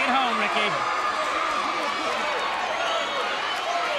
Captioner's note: crowd cheering